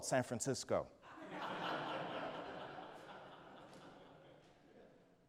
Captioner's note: audience laughs